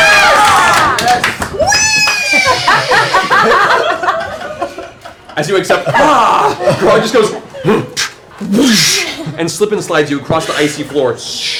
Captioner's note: cheering; grunts, whoosh